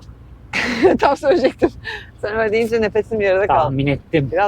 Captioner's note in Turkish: kahkaha